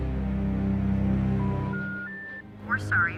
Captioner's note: tone beeping; automated Voice